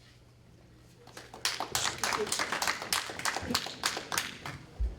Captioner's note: applause